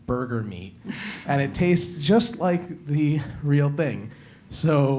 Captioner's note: laugh